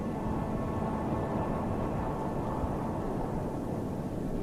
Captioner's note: wind whooshing